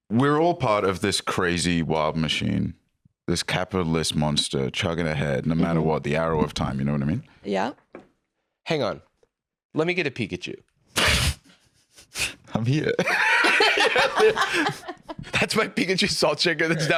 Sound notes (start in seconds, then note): 12.9 laughs